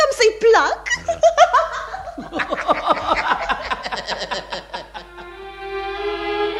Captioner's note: laughter